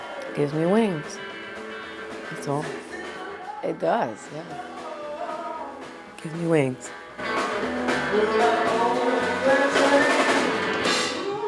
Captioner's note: laugh